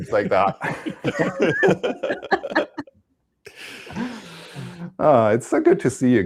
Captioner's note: laughter